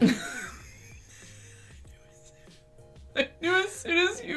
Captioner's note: laughter